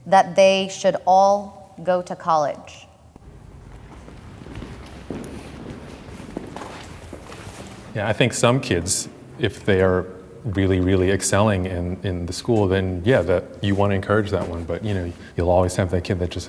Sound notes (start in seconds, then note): 3.4 feet clomping